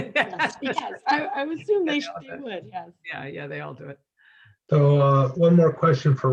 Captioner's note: laugh